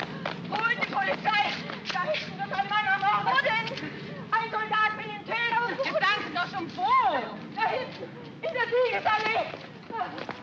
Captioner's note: running footsteps; woman speaking frantically in German; running footsteps